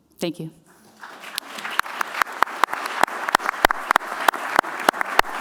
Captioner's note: applause